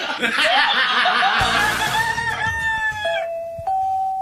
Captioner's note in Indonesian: tertawa